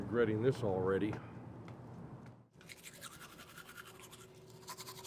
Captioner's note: brush scraping